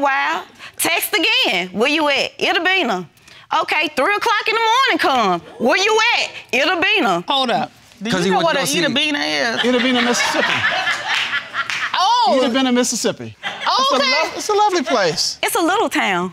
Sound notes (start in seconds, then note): 9.4 audience laughing